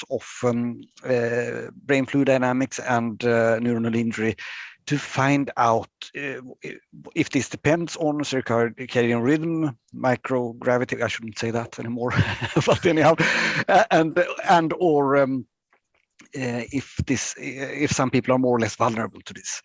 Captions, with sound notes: of brain fluid dynamics and neuronal injury to find out if this depends on a circadian rhythm, microgravity, I shouldn't say that anymore, (laughing) but anyhow. And, or if some people are more or less vulnerable to this.